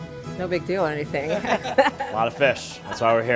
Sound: all laughing

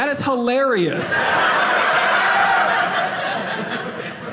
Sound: audience laughing

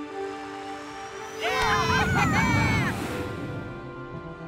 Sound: cheering

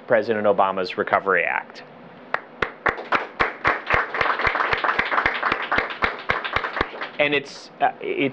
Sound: applause

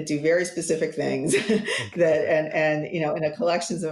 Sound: chuckles

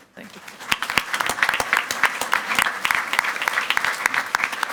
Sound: all clapping

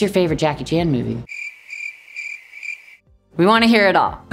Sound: crickets stridulating

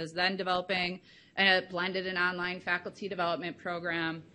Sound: none

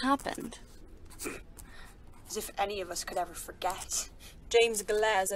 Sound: Marlene snorts

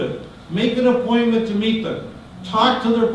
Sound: none

